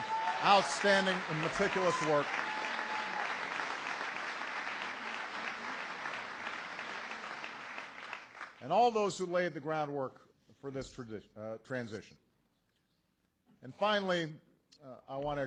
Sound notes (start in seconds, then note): 5.5 applause